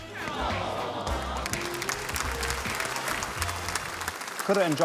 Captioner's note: audience groan; laughter; applause